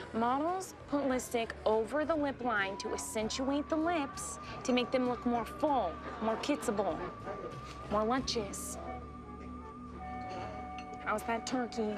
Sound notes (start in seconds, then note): none